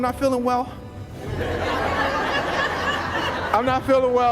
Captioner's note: laughs